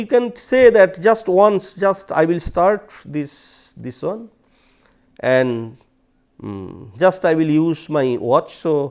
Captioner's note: steps